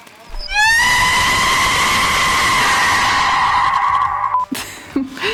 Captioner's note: scream of the damned